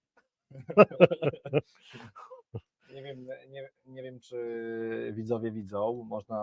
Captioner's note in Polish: śmiech